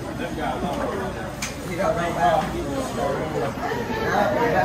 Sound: patrons chatting

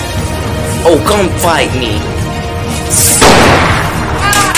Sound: gunshot; guard Screaming

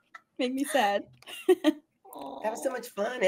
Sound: laughs; chuckles

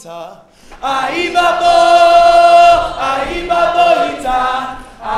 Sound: group chanting

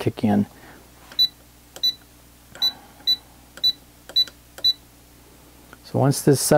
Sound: beeping

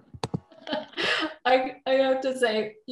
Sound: laughs

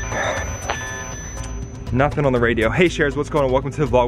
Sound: sighs

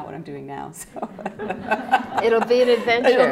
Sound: laughter

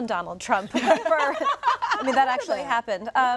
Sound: laughing

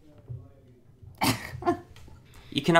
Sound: laughing

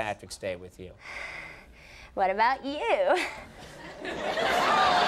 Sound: breathing heavily; audience laughing

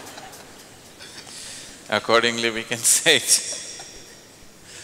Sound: laughs

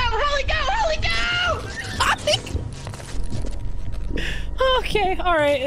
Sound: electric shocks; yelps

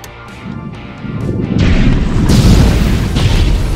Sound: volcano booms

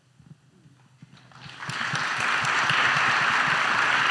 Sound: audience applauds

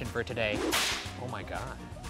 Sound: whip snapping

